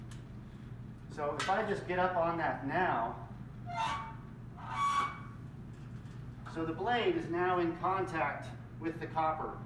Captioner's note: squeek, squeek